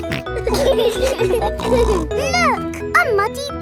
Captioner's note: laughing